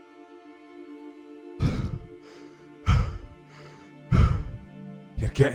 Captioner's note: heavy breathing